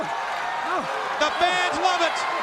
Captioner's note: crowd cheering